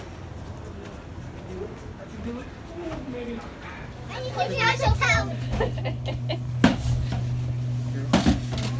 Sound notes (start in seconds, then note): 4.3 excited chattering; 5.5 woman laughs